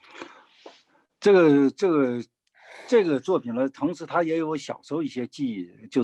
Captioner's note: speaking in foreign language